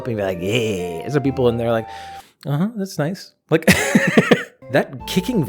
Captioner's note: laughs